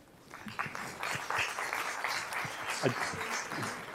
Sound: applause

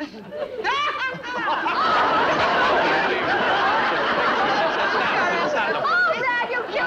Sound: Joan Laughs Loudly; audience laughs

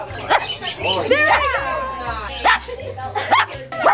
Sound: barking

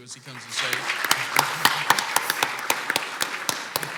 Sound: clapping

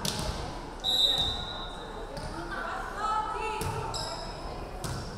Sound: referee whistling

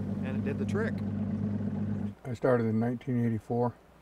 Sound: boat idling

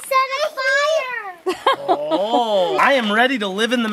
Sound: laughing

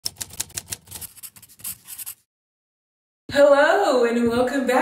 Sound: key board keys typing

